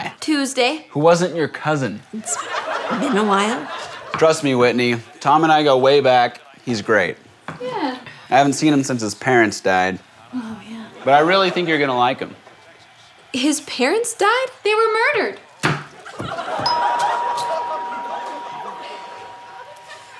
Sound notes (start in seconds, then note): 16.4 doorbell